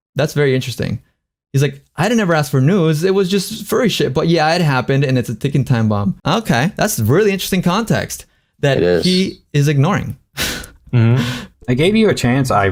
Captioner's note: laughs